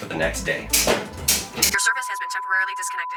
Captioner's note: switches clicking